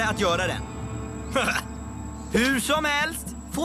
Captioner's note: chuckles